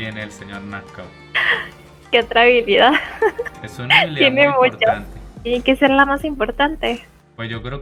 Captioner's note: laughs